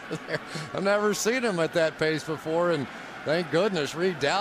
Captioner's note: laughs